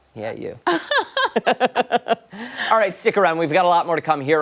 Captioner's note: laughter